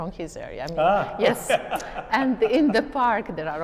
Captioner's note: laughs